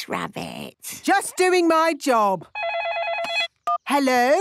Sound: phone ringing

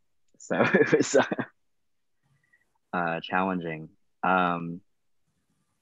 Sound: laughing

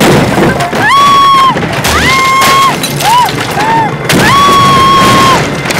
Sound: Ragini screaming

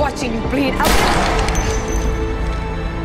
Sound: gunshot

